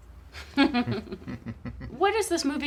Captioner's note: laughter